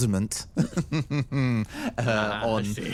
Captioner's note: chuckle